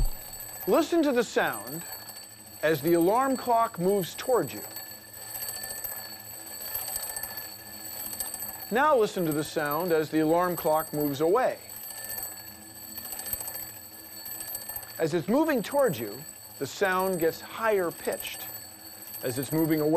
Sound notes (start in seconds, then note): 4.6 alarm ringing; 11.4 alarm ringing